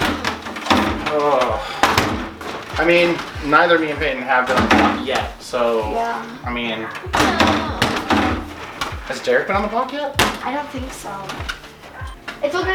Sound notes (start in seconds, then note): 0.1 clanks and sigh; 7.4 low groan